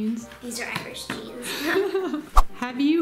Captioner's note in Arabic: يضحك